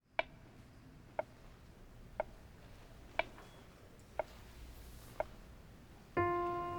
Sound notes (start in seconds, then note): 0.3 metronome ticks steadily